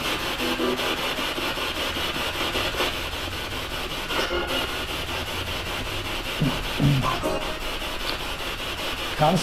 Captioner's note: radio noise from the spirit box